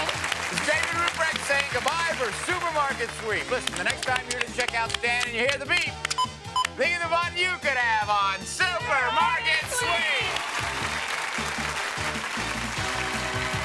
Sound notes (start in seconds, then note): 6.1 beep; 9.6 audience applauds